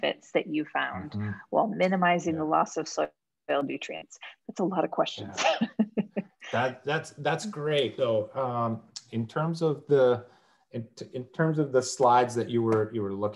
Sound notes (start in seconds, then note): 6.5 laughs